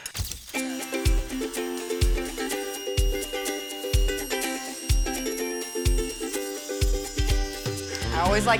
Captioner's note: machine cutting